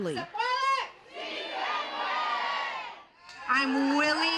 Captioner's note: crowd